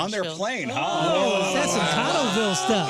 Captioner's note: group gasping